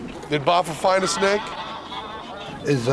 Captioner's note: geese honking; non-english speech